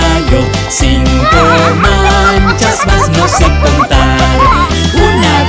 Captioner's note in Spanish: Sonido de cacareo